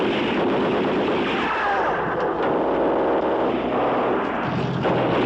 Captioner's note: man cries out; gunfire